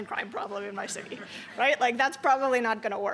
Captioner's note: laughter